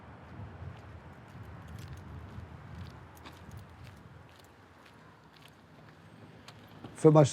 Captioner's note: footsteps